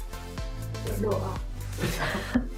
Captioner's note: laugh